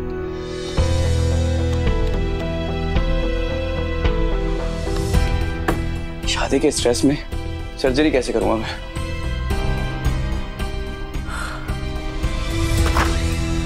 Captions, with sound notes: [intense music plays] How will I perform the surgery under pressure to get married? [sighs] [door opens]